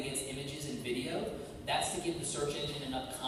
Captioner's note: none